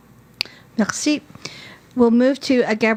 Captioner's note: speaking French